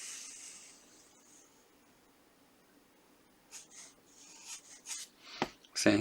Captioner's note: scratching